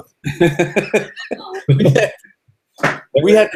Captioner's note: laughing